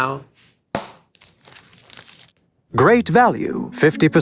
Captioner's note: wrapper tears